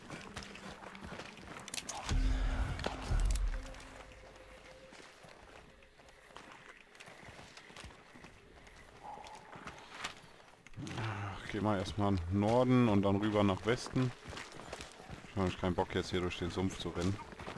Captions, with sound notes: *sigh* first we go north, then west because i don't like to run through the swamps